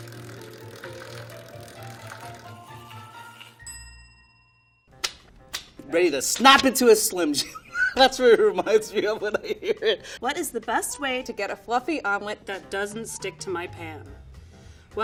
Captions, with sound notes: [spinning sound] [bell rings] - Ready to snap it to a slim jim. That's what it reminds me of when I hear it [laughing] - What is the best way to get a fluffy omelet-- - That doesn't stick to my pan?